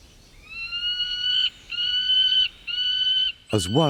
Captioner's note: falcon cries